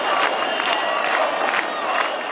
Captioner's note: clapping